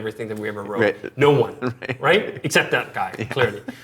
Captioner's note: laughing